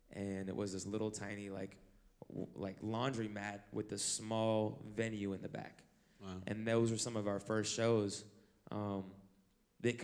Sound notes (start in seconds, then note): none